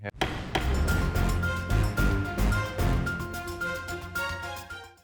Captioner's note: suspenseful music; gavel thudding